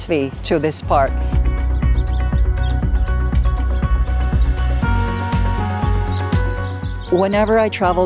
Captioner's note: birds Chirping